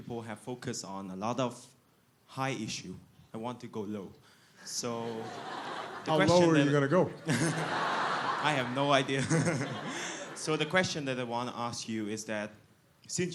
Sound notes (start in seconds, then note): 5.0 laughter